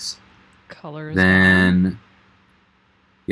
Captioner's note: talks off mic